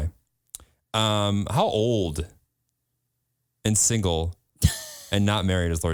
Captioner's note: laughs